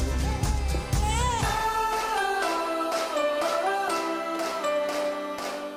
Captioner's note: baby crying